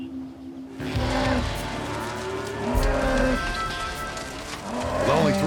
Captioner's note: cows moo